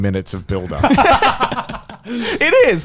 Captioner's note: laughs